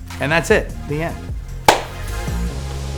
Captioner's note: claps hands; upbeat music slows